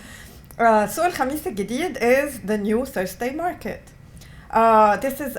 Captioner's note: non-english